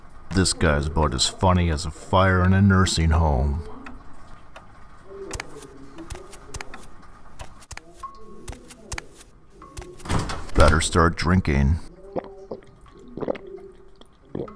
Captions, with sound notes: This guy's about as funny as a fire in a nursing home [footsteps] better start drinking